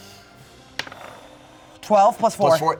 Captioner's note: dice rolling